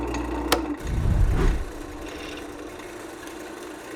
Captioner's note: air whooshes